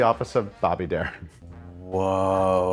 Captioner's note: chuckles